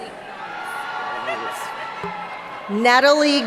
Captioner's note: laughing